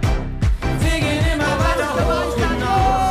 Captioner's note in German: Jubel